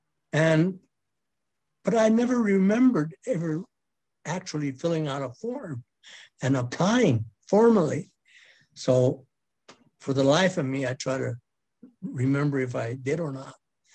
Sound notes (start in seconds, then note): none